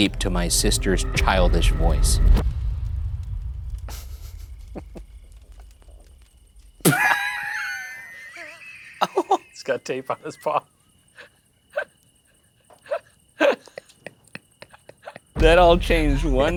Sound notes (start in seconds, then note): 4.4 laughing; 6.8 both laughing; 11.7 laughing